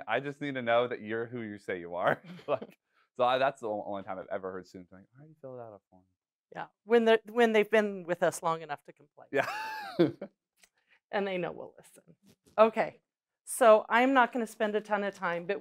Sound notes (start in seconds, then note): 9.9 laughs